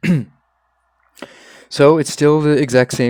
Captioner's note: coughs up fly inhaled previously; immediately inhales it again